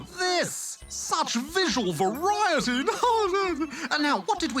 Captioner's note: laughs